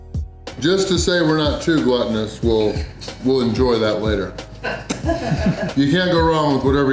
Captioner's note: crowd laughter